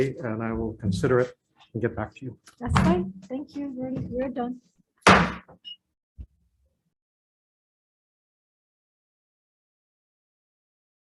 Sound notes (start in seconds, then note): 5.0 gavel bangs